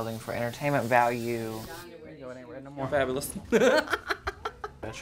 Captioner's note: laughter